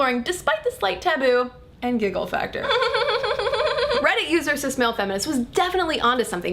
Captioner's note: giggling